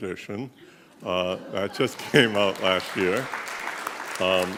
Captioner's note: clapping